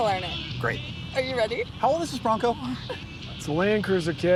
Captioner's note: laughs